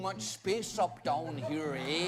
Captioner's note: accented